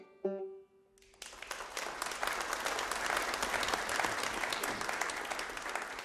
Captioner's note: audience applauding